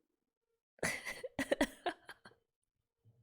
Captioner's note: laughs